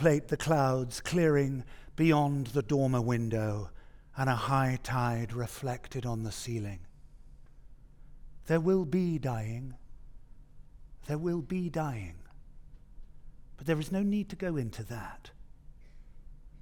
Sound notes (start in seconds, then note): none